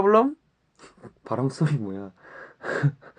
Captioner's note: laughs